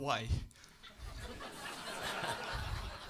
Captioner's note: laughter